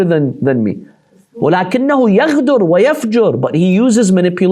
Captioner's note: Arabic